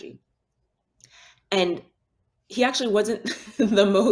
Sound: chuckles

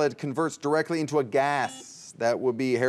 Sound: buzzer beeps

